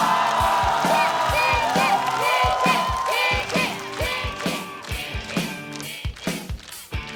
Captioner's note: coughs